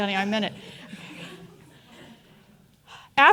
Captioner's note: audience chuckling